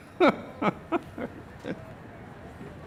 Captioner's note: laughs